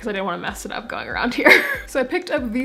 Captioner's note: laugh